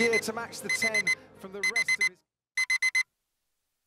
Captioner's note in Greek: ξυπνητήρι